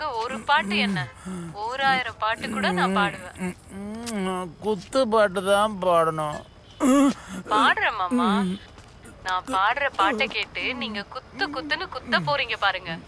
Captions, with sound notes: (kisses) Actually, with your talent, you should be in a bigger position Sunny!